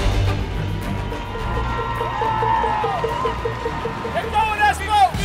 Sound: cheering

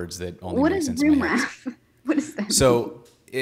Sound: laughs

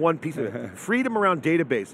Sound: laughs

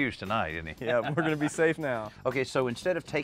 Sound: laughs

